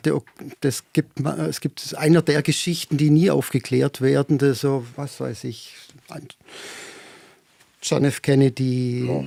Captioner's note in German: seufzt